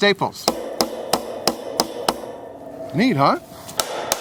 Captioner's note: hammering